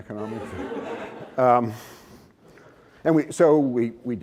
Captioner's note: laughter